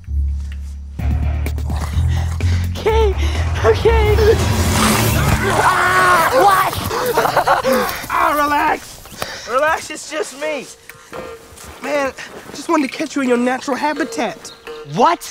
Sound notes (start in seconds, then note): 4.9 snarling; 8.2 laughs